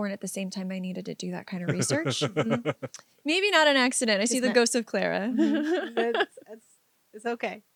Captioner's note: laughs